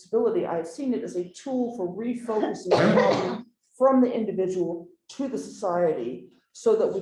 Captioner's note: coughing